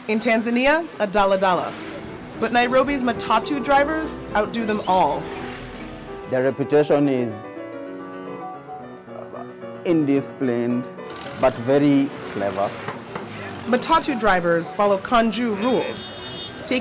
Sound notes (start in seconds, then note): 13.8 voiceover